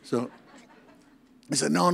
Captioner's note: audience laughs